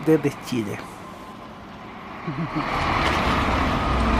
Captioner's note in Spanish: sonido del bus en movimiento